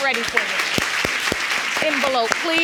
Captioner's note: crowd applauding